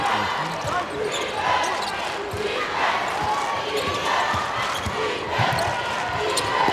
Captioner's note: crowd